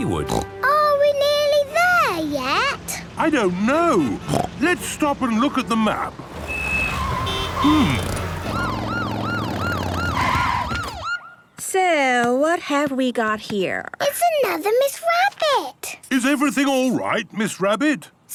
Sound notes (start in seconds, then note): 6.3 honking, sirens